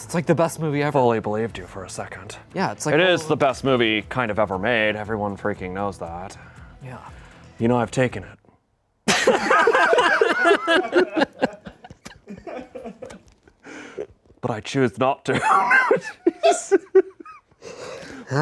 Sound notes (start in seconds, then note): 9.1 everyone laughs; 15.3 laughs